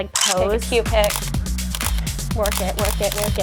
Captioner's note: camera clicks